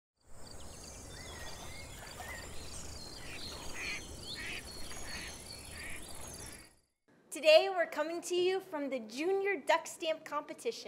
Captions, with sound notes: [BIRDS CHIRPING] [ducks quacking] Today, we're coming to you from the Junior Duck Stamp Competition.